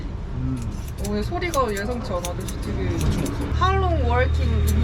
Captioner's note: relentless scissors